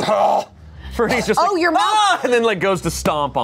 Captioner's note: yells